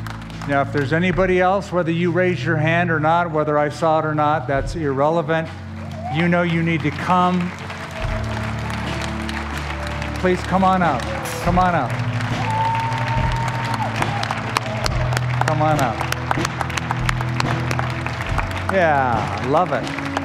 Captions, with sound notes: Now, if there's anybody else, whether you raise your hand or not, whether I saw it or not, that's irrelevant. You know you need to come-- [APPLAUSE] --please come on up. Come on up. [CHEERING AND APPLAUSE] Come on up. Yeah, I love it.